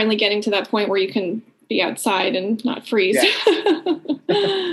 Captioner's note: aughing